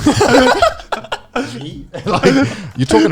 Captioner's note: laughing